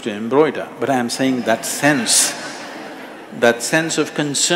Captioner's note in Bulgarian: смях